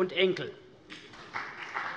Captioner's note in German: Beifall CDU und BÜNDNIS 90/DIE GRÜNEN